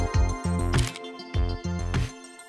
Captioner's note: shutter